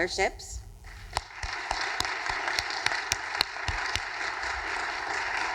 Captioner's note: audience applauding